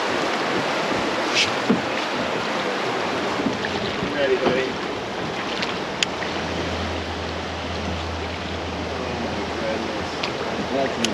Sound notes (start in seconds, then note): 4.2 background chatter